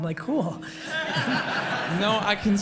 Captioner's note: audience laughs